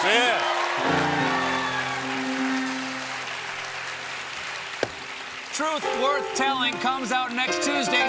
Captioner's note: cheers and applause